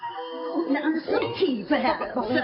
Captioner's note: women stammering